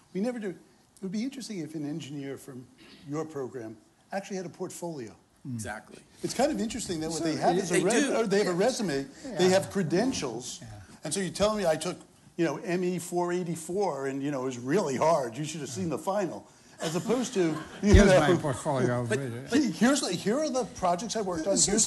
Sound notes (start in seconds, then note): 16.8 laughter